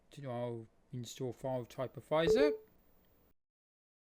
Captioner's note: windows user account control sound